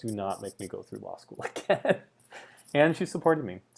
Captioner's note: laughs